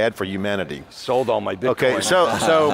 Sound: laughs

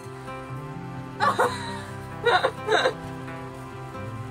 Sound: laughs

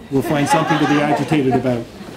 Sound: laughter

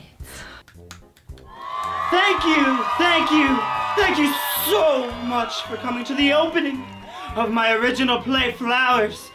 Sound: applause

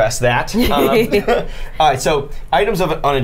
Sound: the group laughs

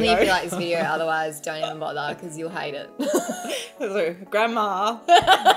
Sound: laughs; laughs; laughing

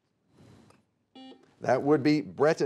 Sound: buzzer beeping

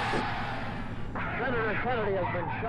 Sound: cheering

